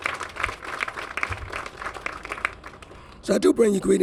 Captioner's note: applause